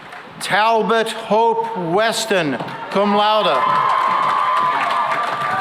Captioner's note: cheering and applause